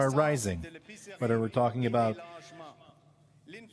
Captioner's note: speaking French